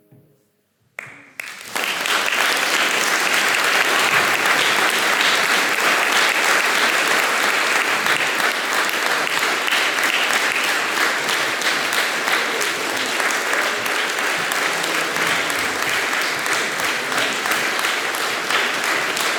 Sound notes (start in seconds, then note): 2.3 applause